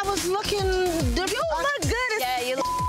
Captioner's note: beep